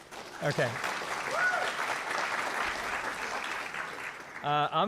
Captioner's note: applause